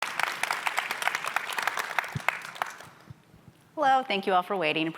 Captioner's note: audience applauding